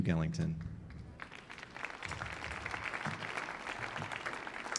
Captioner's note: audience applauding